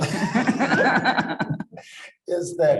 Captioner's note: panelists laughing